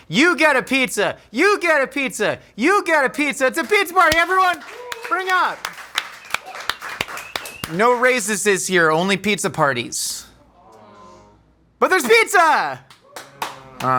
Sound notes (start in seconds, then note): 6.6 crew clapping